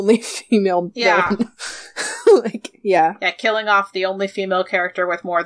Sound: laughs

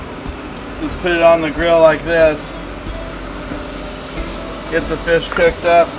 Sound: fish pieces sizzling

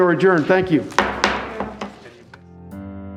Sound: gavel bangs

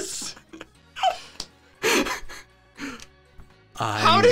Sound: laughing

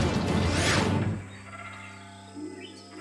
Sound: birds chirping

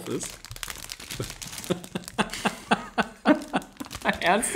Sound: laughs

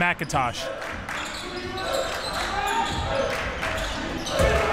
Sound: crowd cheering

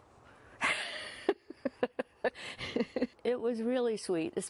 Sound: laughter

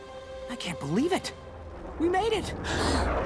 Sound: none

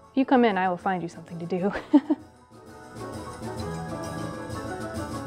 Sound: laughs

